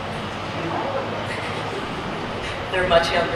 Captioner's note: everyone chuckles